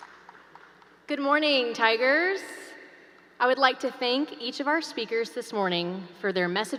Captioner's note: applause